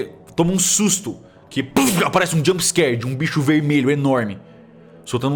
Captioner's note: whack